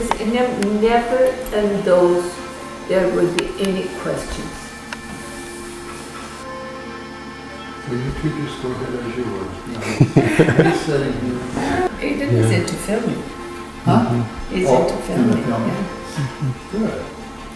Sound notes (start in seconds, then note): 9.3 laughter